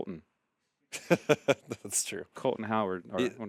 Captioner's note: laughing